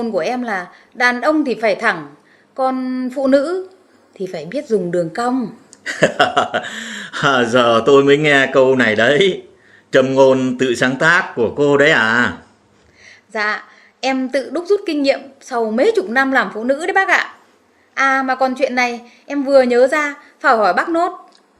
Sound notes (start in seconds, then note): 5.8 laugh